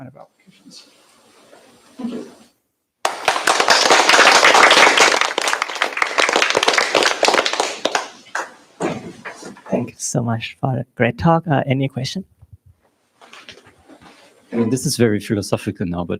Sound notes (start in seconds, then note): 3.0 applause